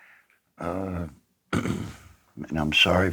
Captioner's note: clears throat